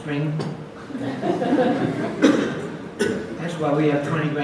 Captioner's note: audience laughs